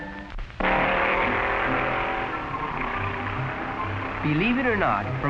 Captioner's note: hot rod revving